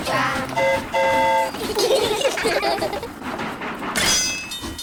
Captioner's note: train horn toots; all giggle